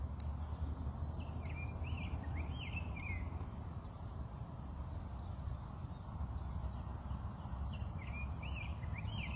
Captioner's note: crickets chirping.... bees buzzing.... birdsong